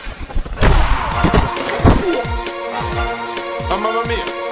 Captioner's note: kick thudding